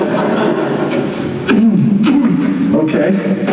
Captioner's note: coughs